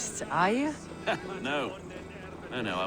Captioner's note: laugh